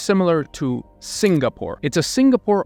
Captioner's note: camera clicking